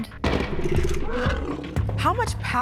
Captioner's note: woolly mammoth growling, roaring